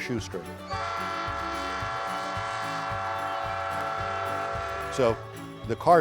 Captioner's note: loud train whistle